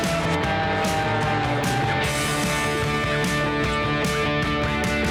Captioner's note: airplane engine